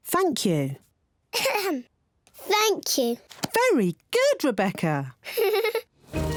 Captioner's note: clears throat; giggles